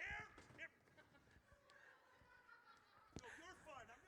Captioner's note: audience laughs